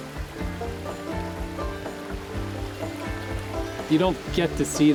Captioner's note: water burbling